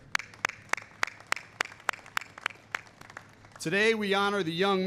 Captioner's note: applause